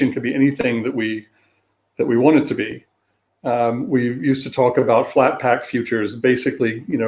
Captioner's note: erm